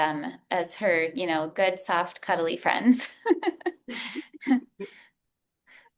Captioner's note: chuckles